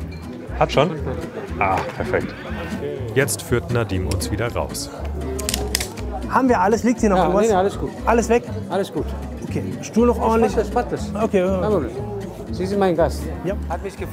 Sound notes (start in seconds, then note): 5.5 click